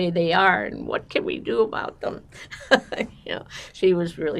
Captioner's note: laughing